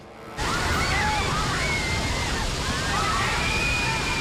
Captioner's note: screaming